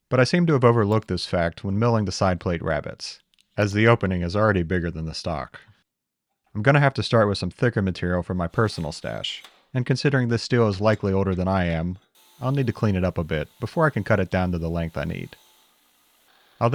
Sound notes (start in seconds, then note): 12.1 machine whirring